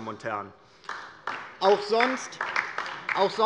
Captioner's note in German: Beifall DIE LINKE